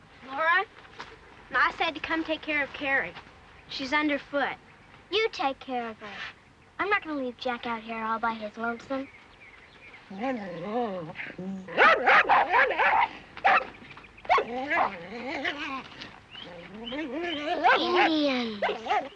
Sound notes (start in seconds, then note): 10.1 growling; 11.7 barking